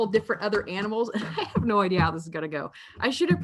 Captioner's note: laughing